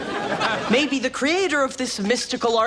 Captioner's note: audience laughs